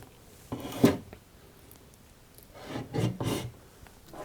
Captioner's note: opening and closing cabinets